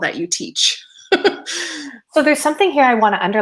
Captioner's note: laughing